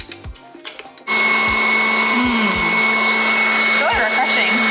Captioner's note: blender whirring